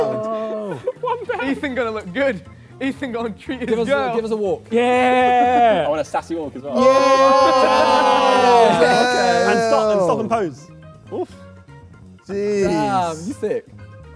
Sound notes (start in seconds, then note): 2.5 laughs; 6.8 Tobi cheers; 9.7 Sidemen cheer